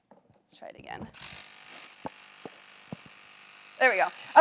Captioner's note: bike pump whirs